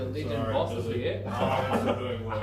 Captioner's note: laughing